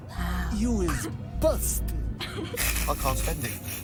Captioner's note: snickering